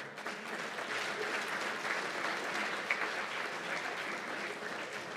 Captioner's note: applause